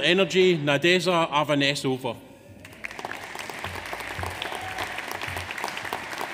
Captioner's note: audience applauds